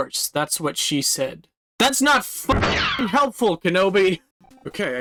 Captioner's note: blaster sound effect